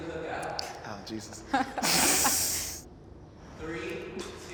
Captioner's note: panelists laughing